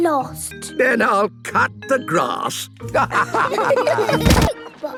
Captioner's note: laughter